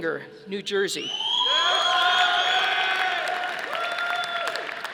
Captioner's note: audience applauding